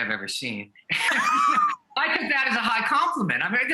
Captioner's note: both laughing